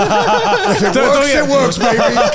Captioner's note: all laughing